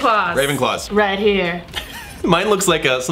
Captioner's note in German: lacht